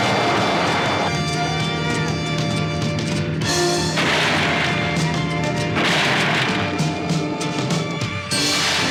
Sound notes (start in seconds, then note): 3.6 gunfire